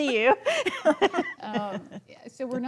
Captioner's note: laughing